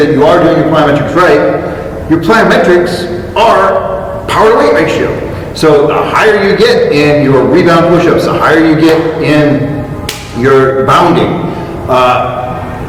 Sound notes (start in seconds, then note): 10.1 smack